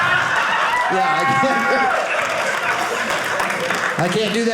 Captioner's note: audience laughing